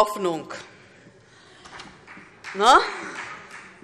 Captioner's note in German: Vereinzelter Beifall SPD